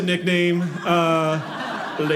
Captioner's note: audience laughing